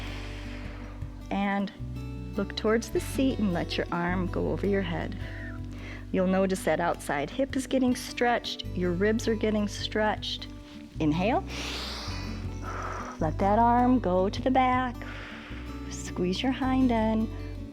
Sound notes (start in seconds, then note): 0.0 exhales; 11.4 inhales and exhales; 15.2 exhales